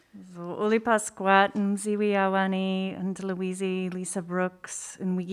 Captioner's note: speaking in a foreign language